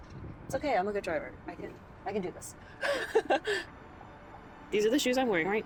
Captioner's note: laughs